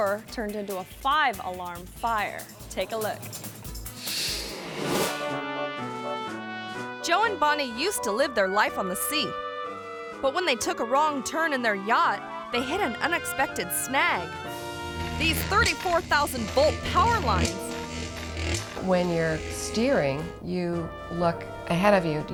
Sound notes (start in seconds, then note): 4.6 bright music; 16.4 bright music continues; 16.4 electricity buzzing